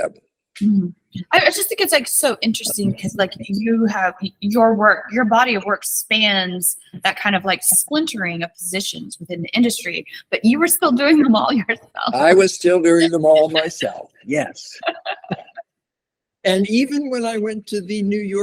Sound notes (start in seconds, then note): 11.0 laughs